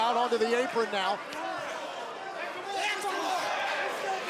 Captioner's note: crowd cheering